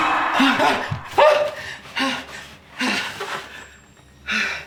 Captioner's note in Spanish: Jonathan jadeando